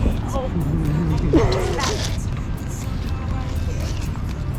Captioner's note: atmospheric throwing up